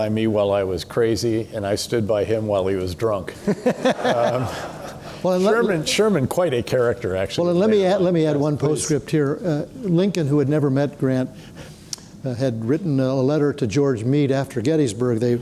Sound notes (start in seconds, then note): 3.4 people laughing